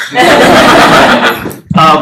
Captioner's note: laughter